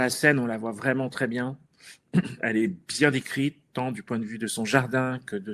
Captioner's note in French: raclement de gorge